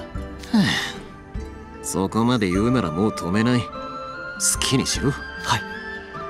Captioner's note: sigh